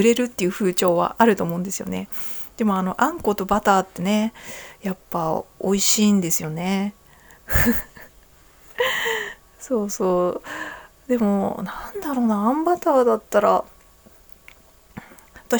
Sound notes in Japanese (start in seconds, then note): 7.5 笑い; 10.4 息をのむ音